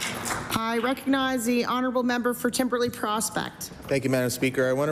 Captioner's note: applause